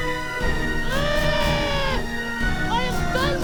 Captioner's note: screaming